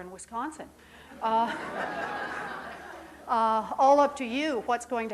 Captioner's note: audience laughing